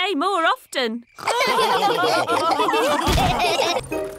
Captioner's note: all laughing